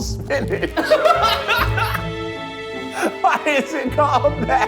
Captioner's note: laughs